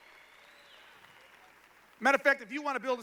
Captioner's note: applause